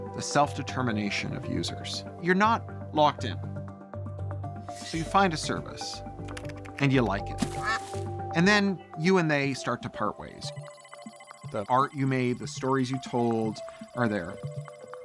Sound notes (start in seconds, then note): 7.5 duck quacks